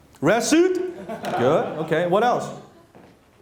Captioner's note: laughter